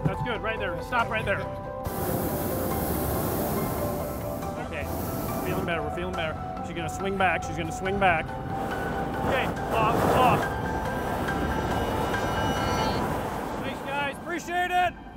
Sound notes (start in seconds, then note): 1.8 blast valve operating